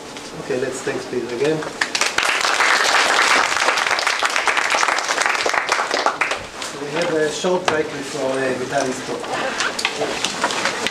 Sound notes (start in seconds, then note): 4.7 applause